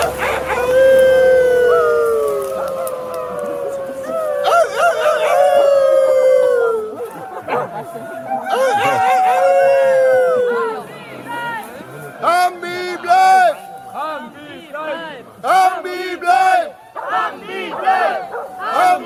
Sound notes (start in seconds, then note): 0.2 people barking; 5.3 dogs barking; 12.6 protesters chanting the " " chrous